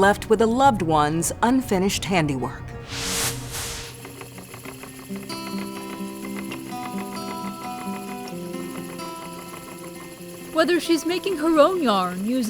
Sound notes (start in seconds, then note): 2.9 machine whirs; 3.9 calm music